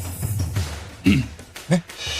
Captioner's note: cough